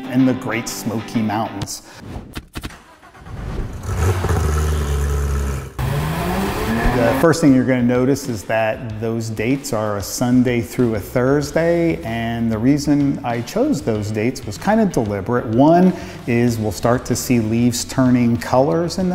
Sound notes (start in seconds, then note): 2.8 car engine roaring